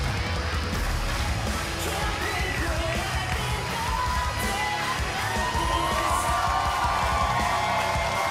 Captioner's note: cheers and applause